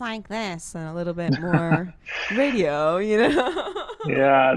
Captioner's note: laughs